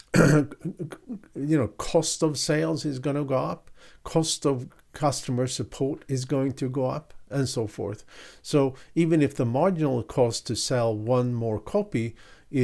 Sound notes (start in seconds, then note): 0.0 clears throat